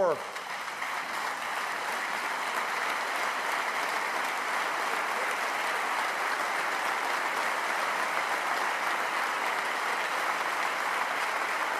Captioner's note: applause